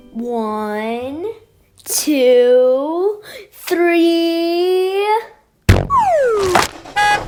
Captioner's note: boing sound, landing sound